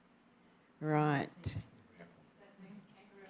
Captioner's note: chatter